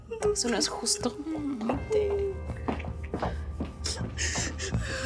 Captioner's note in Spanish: Sollozos